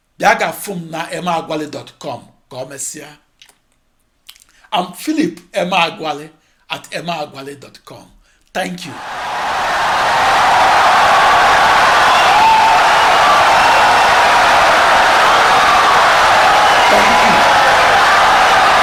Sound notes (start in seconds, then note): 5.9 wild applause and cheering for 17 seconds